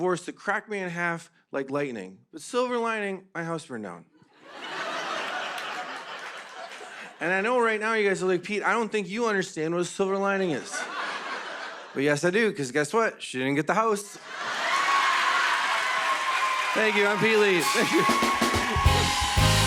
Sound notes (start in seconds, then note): 4.3 laughter; 14.3 cheers and applause